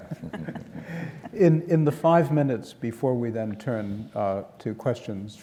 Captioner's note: laugh